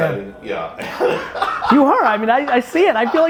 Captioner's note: laughs